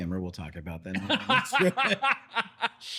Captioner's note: both Laughing